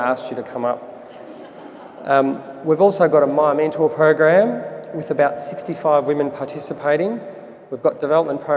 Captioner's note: audience laughter